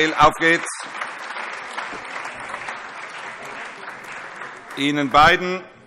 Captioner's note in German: Allgemeiner Beifall - Schriftführer überreicht ein Geschenk